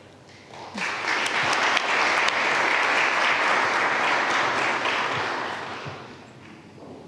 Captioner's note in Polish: oklaski